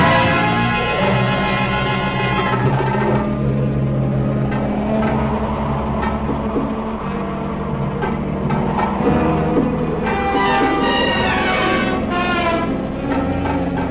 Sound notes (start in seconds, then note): 0.1 doors banging; 0.1 suspenseful music; 2.6 dramatic music; 2.6 wind blowing eerily; 9.9 suspenseful music